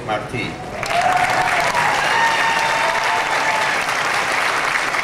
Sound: clapping and cheering

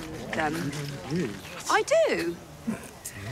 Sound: crowd mumble

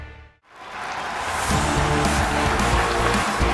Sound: applauding and cheering

